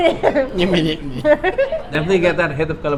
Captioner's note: laughs